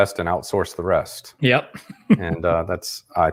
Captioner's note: laughs